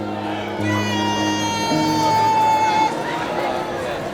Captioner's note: crowd cheers